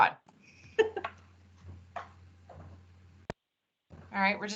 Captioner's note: laughs